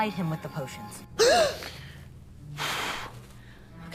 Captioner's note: exhales forcefully; gasp